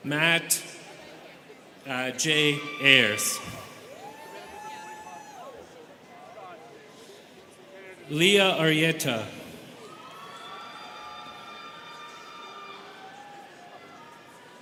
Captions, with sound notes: Matt J. Ayres. (students cheering) (students chattering) Lia Arrieta. (students cheering)